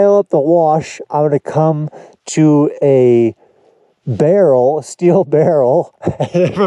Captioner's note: chuckles